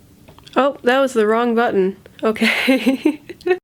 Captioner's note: laughs